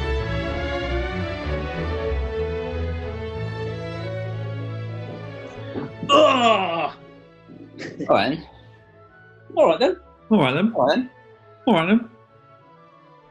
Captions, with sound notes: [GROANS] Alright, then. Alright, then. HORNE + WATSON: Alright, then.